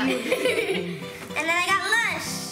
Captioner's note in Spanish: risa